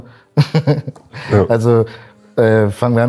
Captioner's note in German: lacht